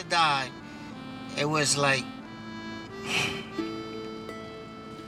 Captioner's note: sighs